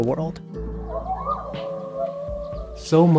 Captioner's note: wolves calling